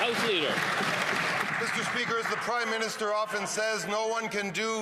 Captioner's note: some applause